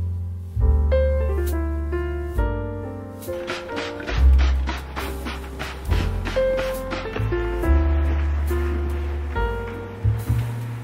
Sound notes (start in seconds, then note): 3.3 spray mists